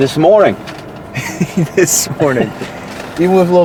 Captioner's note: chuckling